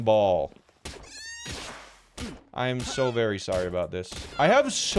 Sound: Lamball crying

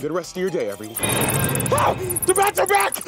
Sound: screaming

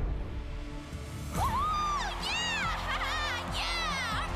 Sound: crowd cheering

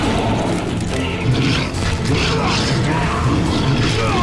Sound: groaning

